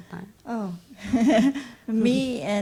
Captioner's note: laughs